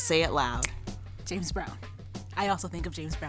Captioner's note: snapping fingers